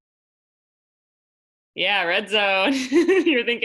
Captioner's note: laughter